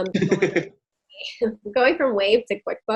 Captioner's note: chuckling